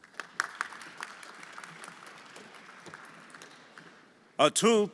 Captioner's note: everyone applauding